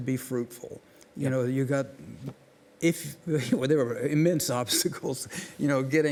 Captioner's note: chuckles